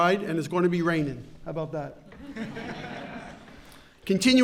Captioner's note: laughter